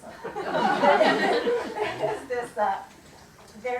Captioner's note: laughter